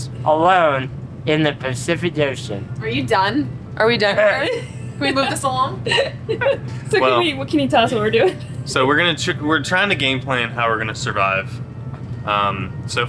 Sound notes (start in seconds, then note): 5.8 all laughing